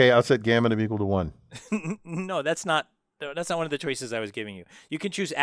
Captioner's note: laugh